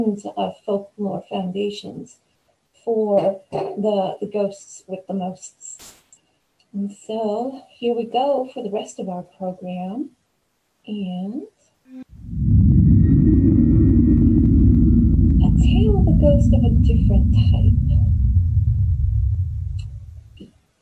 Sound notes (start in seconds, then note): 12.1 spooky transition